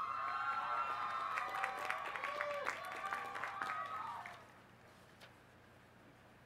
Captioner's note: applause